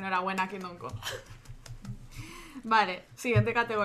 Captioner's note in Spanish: risas